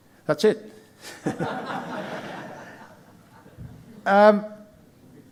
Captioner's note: audience laughing